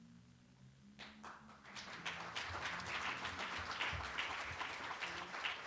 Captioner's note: applause